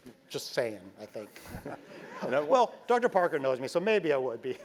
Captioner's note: laugh